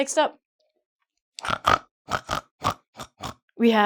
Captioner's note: snorts